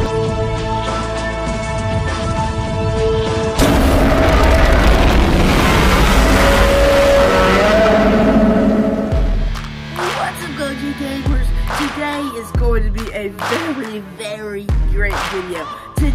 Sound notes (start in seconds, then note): 3.6 Godzilla Minus One roars; 9.7 epic music plays